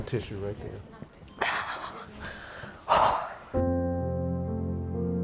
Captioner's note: deep sighs